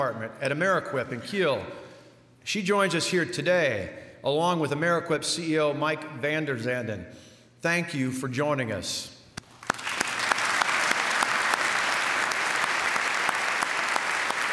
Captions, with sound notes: at Amerequip in Kiel. She joins us here today, along with Amerequip CEO Mike Vanderzanden. Thank you for joining us. [applause]